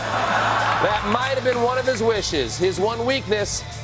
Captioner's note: laughter